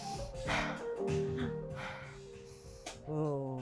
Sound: heavy breathing

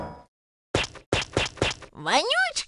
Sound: more splishy steps

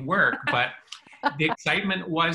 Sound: laughs

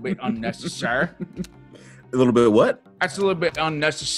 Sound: laugh

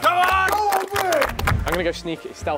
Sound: clapping

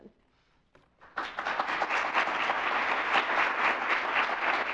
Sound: audience applauds

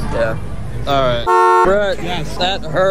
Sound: beep

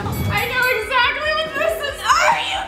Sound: bell dings

